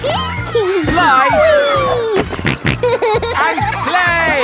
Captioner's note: giggles; snorting